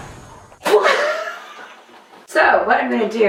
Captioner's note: laughs